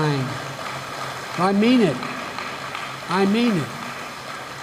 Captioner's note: applause